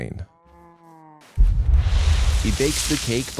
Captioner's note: geyser explosion